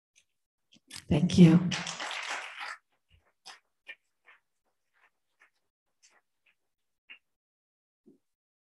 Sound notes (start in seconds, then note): 1.2 applause